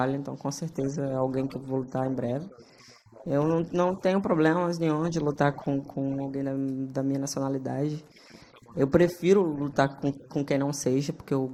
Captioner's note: speaking foreign language